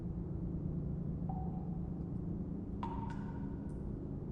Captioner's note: water dripping